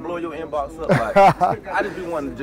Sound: laughs

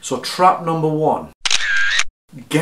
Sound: camera clicking

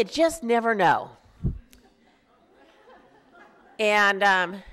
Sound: laughter

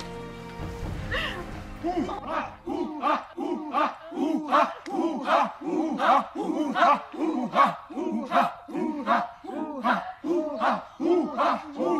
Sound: chanting continues

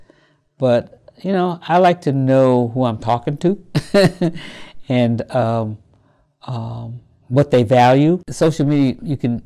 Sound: laugh

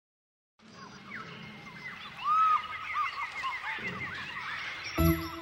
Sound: monkeys screeching

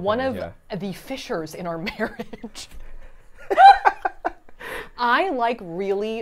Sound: laughs

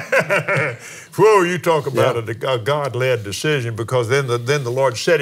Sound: laughs

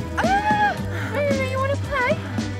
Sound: woman calls

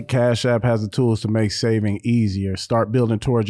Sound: none

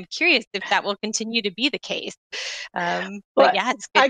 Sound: murmurs

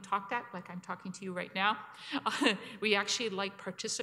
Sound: chuckles

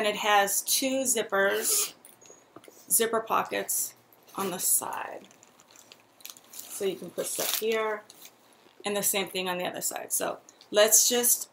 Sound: zipper pockets

